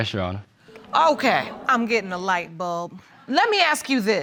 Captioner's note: audience groans